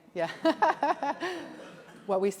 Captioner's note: audience laughs